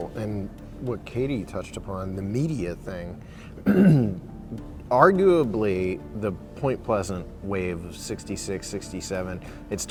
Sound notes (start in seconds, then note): 3.6 clears throat